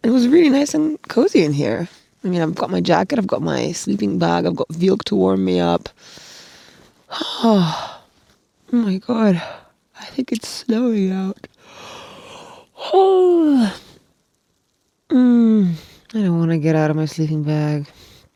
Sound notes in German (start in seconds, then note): 11.6 gähnt